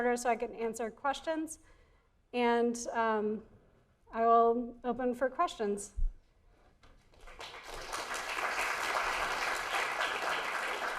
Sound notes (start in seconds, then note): 7.0 audience clapping